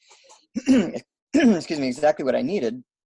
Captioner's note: clears throat